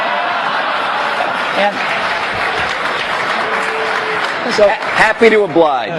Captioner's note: laughter